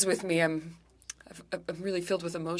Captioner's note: speaking French